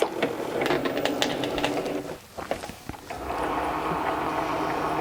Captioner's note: machine buzzing